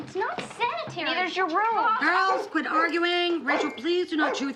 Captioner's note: angus barking